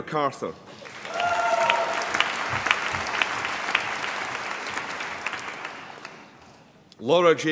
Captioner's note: applause